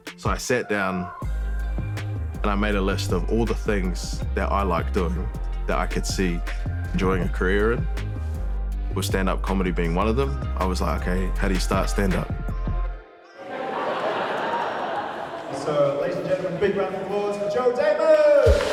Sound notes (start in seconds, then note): 13.7 audience chattering